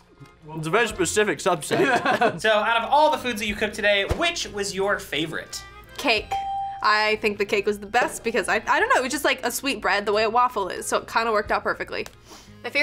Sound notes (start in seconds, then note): 1.7 laughs